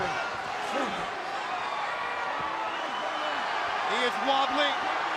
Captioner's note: crowd chatter